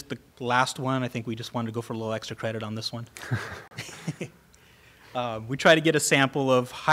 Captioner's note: laughter